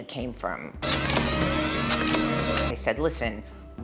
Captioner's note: machines whirring loudly